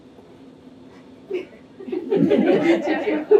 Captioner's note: laughter